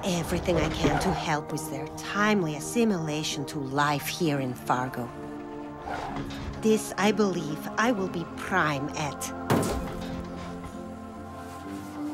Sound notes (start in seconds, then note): none